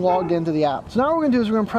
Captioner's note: dog barking